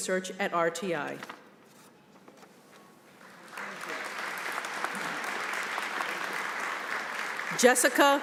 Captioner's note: applause